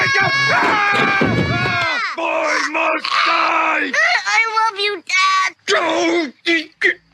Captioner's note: screaming